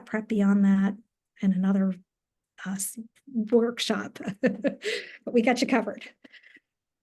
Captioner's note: chuckles